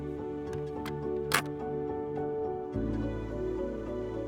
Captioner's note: tank clicks into place